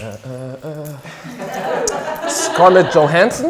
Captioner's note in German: singend; Lachen